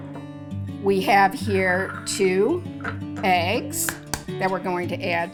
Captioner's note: egg shells cracking